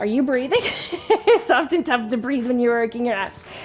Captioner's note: laughing